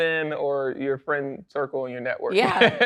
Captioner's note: laughs